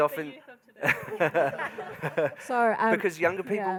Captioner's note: laughing